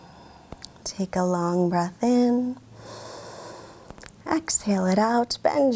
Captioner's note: inhales deeply